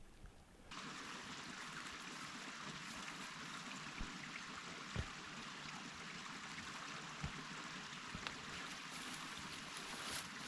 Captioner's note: sound of running water